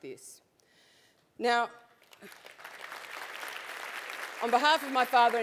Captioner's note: applause